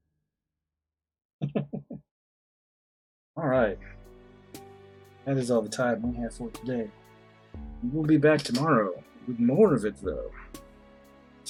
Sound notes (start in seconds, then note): 1.4 chuckles